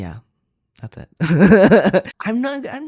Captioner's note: laugh